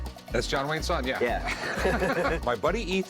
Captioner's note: laughter